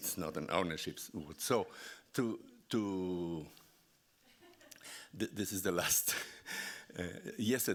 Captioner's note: laughing